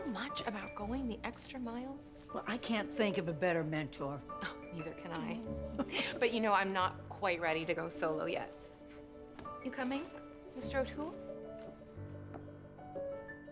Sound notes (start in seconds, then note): 3.8 both chuckling